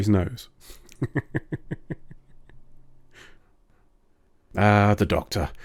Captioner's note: totes not laughing